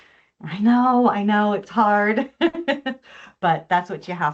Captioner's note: chuckles